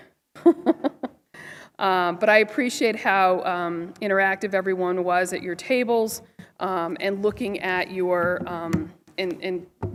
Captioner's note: laughter